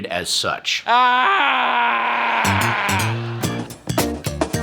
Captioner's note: Patton yells